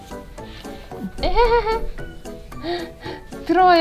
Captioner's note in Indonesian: tertawa